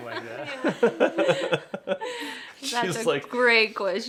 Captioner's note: laughing continues